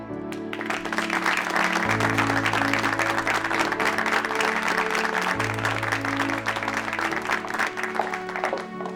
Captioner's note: clapping